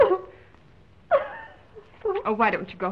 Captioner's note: Mrs. Mullen sobbing